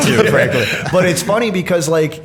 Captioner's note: laughter